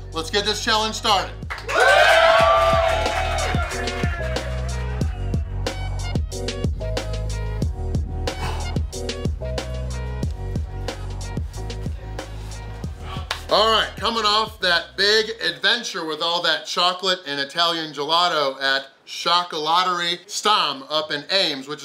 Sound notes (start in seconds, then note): 1.4 crowd applauds; 1.5 crowd cheers; 3.6 mellow music; 8.2 exhales